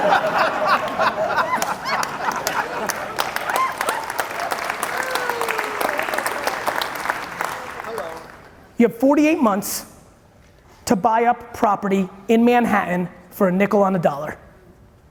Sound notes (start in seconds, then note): 0.0 audience laughing loudly; 1.7 audience applauding